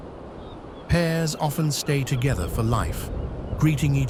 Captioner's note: birds chirping